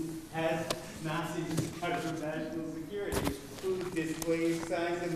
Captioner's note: drown out by paper rustling